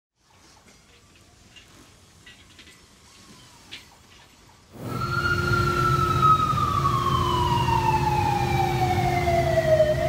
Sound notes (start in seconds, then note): 2.2 metal clicking; 4.7 sirens ringing